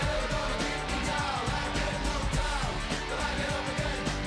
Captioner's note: cheering